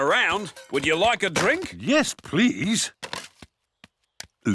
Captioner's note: none